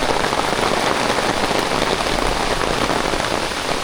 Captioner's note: rain